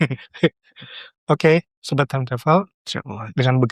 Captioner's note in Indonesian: tertawa